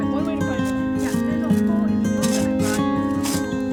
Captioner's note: background chatter